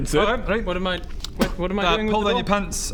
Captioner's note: spit